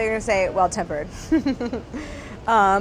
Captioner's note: laughs